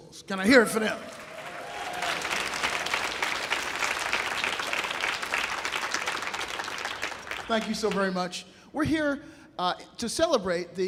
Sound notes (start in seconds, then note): 0.6 audience applauding